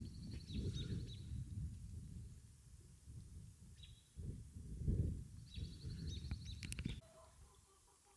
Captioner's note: birds chirping